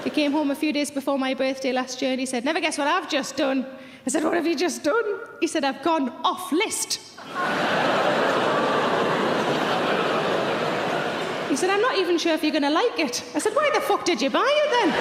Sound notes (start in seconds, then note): 7.2 audience chatters